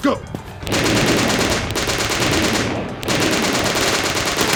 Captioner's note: gunfire rattling